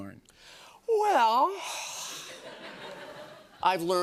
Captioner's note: laughter